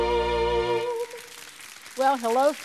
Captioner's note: audience applauds